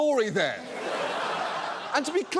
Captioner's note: audience laughs